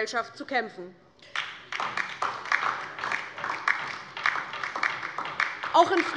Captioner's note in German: Beifall DIE LINKE